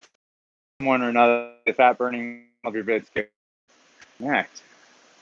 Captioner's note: audio glitching